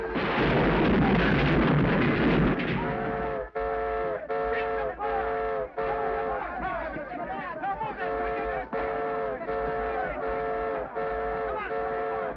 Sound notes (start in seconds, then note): 0.0 dynamite booms; 3.5 train horn whistles; 3.8 men shout